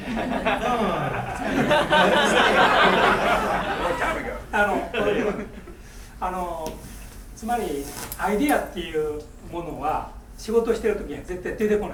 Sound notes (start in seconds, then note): 0.0 laughing; 4.7 speaking in foreign language; 8.0 crackling